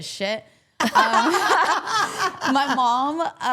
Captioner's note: all laughing